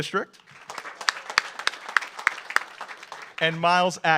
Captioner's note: audience applauds